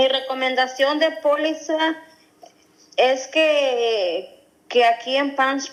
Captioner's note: speaking non-english